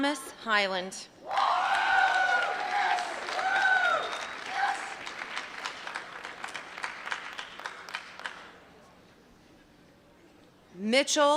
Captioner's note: applause